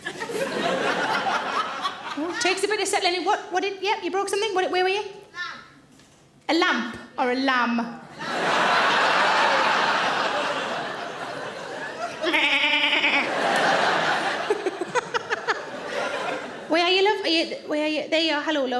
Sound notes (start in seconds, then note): 0.0 audience laughing; 10.4 audience laughing; 12.2 imitating lamb baaing; 14.2 all laugh